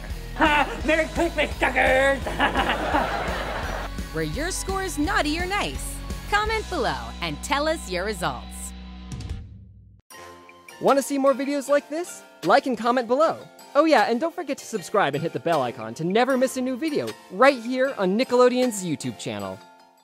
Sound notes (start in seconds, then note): 2.3 laughing